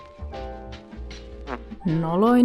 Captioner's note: 𝘴𝘮𝘢𝘭𝘭 𝘧𝘢𝘳𝘵